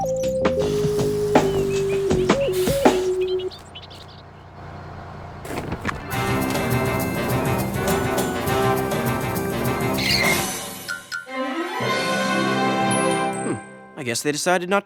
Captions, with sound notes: (BIRDS CHIRP) (SCREECHES TO A HALT) HM. I GUESS THEY DECIDED NOT TO MOVE THE SCHOOL.